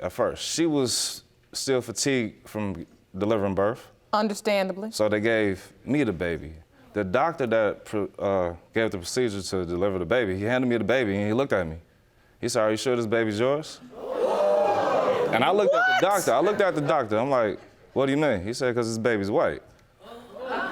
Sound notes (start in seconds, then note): 13.9 audience gasping